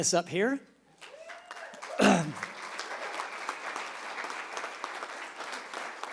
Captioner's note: applause